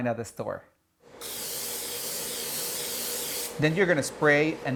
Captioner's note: spray hisses